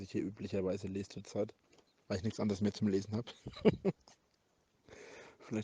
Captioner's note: dirty giggle